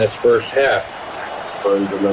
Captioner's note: crowd Noises